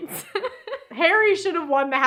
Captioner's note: laughs